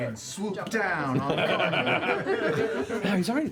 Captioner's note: laughter